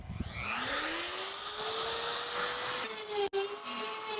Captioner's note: power tool whizzing